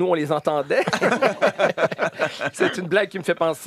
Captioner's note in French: rires